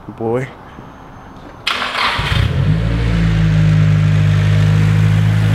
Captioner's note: exhaust and engine noise